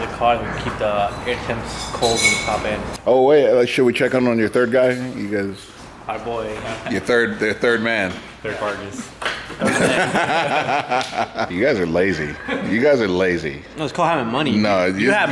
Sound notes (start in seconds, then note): 9.6 laughter drowns out other sounds